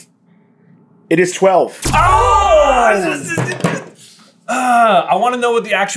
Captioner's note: slam slam